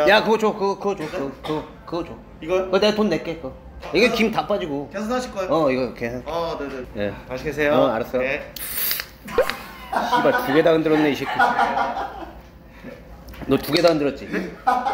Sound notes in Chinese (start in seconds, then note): 9.3 噗 哈哈哈哈哈; 12.1 哈哈哈哈哈哈哈哈哈